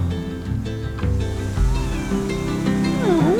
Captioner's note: cat meows